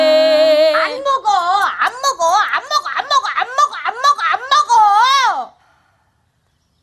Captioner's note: yelling sour multiple times